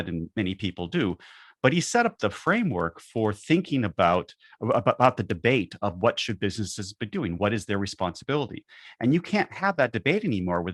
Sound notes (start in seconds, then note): none